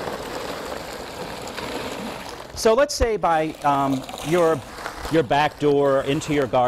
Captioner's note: rocks pouring